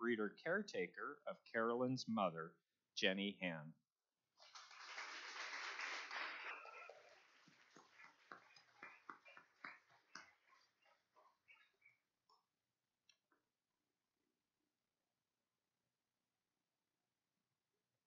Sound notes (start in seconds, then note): 4.4 applause